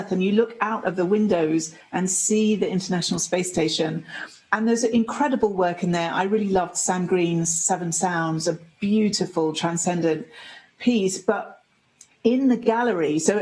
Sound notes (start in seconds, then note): none